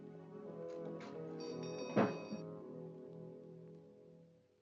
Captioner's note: door bell jingling; door closes